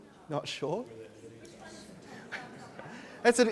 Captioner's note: audience chatter